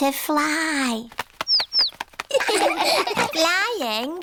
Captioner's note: chirping; laughter